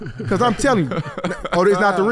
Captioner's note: laughing